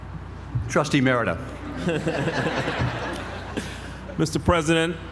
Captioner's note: laugh